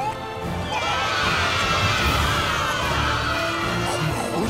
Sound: cheering

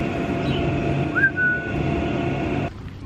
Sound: whistles

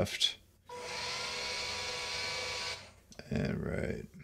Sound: machine buzzing

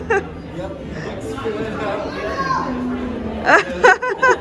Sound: laughing; crowd chattering; laughing

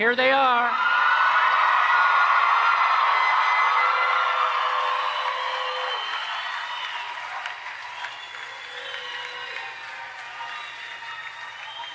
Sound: applause and Cheering

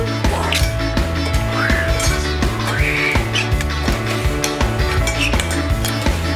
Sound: dad mimicking fingerboard whooshing

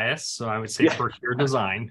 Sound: chuckles

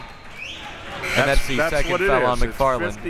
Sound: mumbles

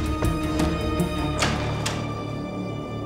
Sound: door opened

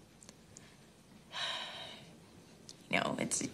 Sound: Caitlin sighs

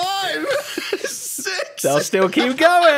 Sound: laughs

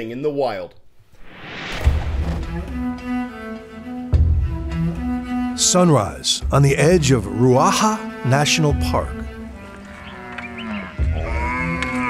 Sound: voice-over

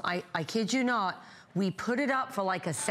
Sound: foreign language

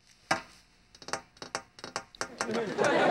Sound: tapping

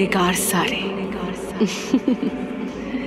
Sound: giggling

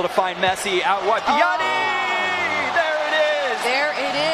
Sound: cheering

